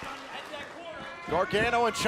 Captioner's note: crowd cheering